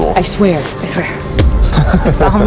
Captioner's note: laughs